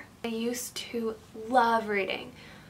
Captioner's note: none